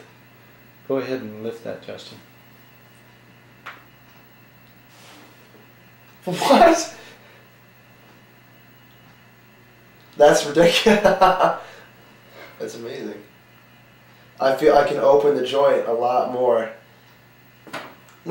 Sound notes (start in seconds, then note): 10.8 laughter